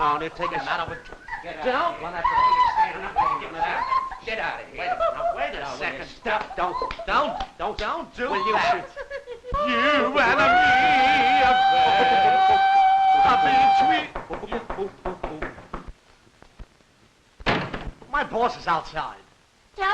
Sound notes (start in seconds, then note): 1.6 laughs; 2.7 chatter; 9.1 singing; 14.1 knocking